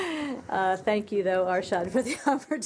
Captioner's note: laughter